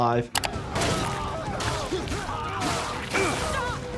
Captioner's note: grunting